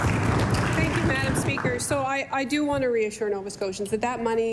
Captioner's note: applause